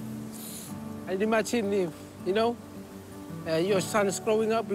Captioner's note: sniffs